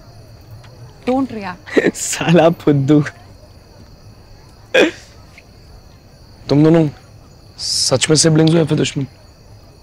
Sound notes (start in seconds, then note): 1.5 Laughs